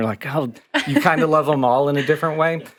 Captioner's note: chucking